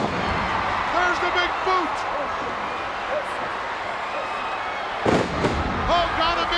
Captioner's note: Haku thudding